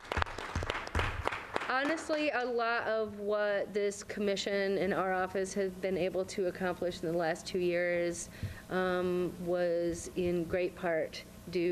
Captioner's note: applause